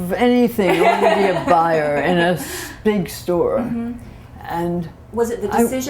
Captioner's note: laughter